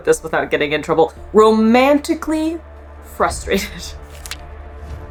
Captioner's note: chuckles; background music